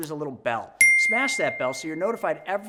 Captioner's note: bell ringing